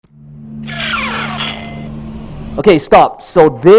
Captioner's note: whooshing